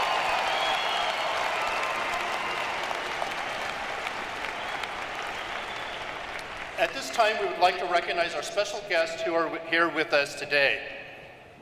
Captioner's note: cheers and applause